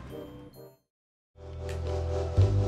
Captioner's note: none